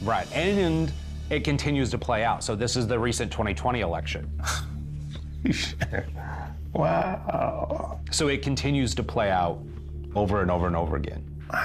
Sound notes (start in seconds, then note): 4.3 gasps, marvels